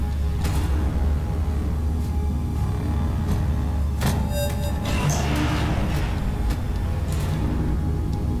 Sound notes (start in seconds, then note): 4.6 elevator scraping